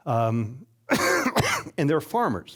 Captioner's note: coughing